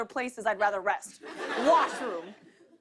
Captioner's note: laughter